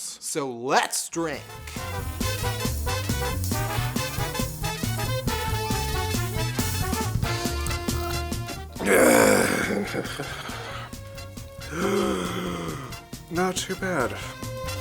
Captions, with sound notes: So let’s drink... [drunken growling] [drunken gasping] Not too bad.